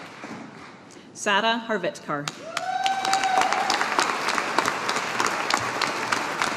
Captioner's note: audience applauding